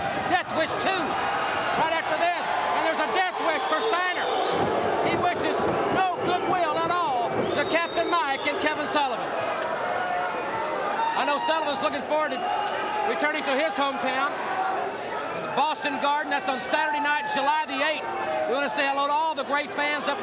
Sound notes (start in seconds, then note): 4.6 audience barks